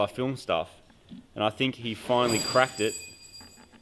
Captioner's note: metallic clattering